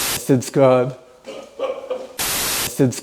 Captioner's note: laughing